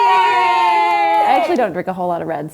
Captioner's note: cheering